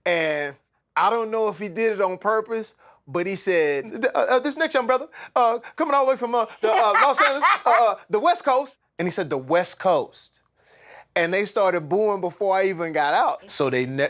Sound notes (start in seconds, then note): 3.7 sinbad voice